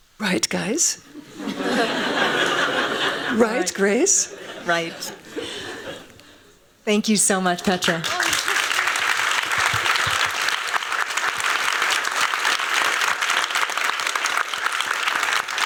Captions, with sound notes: Right, guys? [LAUGHING] Right, Grace? Right. Thank you so much, Petra. [APPLAUSE]